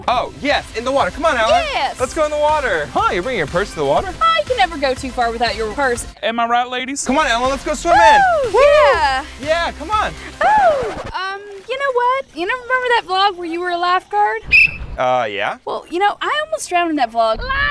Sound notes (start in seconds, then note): 10.4 record scratching sound; 14.4 whistle blowing